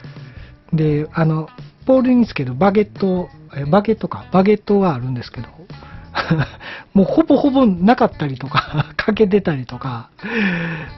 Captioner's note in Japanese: 笑い